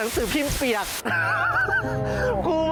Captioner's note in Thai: เสียงหัวเราะ